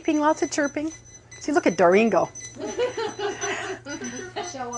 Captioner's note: laughing